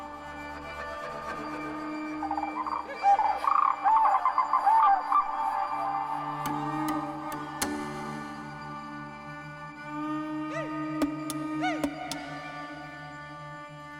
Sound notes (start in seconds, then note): 0.2 mystical music continues; 2.4 animals hooting; 10.3 mystical music continues